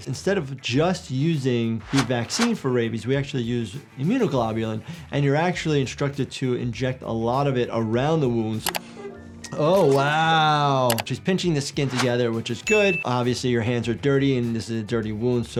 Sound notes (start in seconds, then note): 8.6 scene clicking